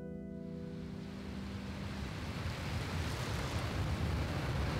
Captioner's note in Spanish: Mar en movimiento